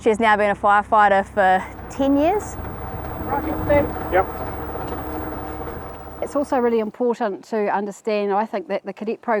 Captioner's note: indistinct chatter